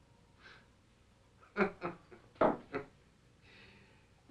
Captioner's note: Faust laughing